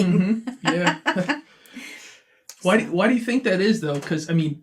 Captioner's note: laughs